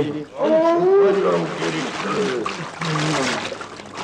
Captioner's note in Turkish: Fonda boğuşma sesleri devam ediyor